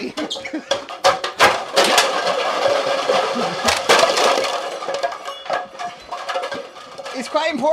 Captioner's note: MORE Clattering